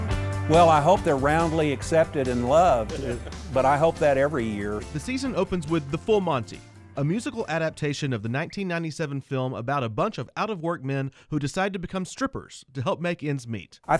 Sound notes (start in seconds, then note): 5.1 voiceover